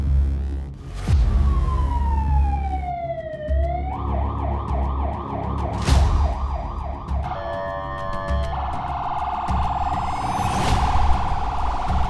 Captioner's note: siren